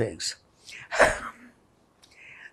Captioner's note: laughing